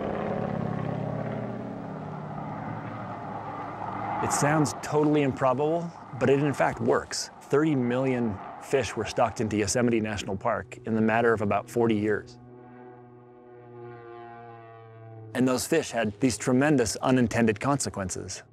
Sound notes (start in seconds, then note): 0.2 airplane engine; 12.5 airplane engine roars